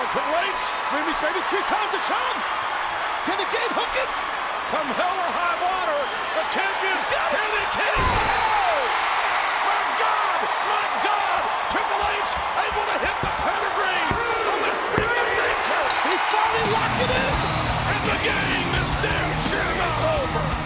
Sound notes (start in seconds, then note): 8.8 applause